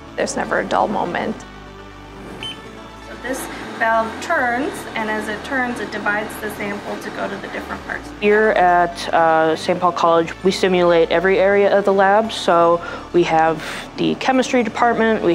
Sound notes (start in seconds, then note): 2.2 machine beeping